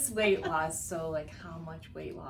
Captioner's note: laughs